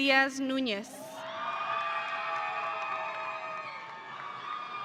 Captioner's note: audience cheering